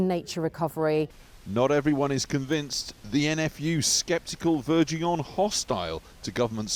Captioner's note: voice-over